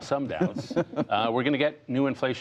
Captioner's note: laughter